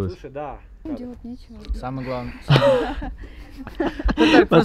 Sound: laughter

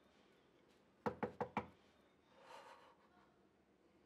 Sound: door knocks

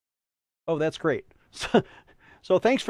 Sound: chuckles

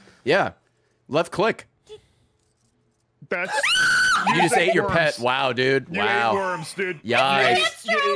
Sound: screams

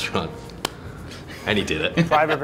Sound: laughs

